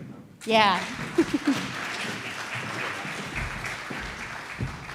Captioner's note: audience applauding